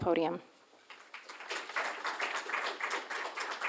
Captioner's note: applause